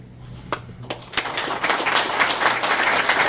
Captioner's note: applause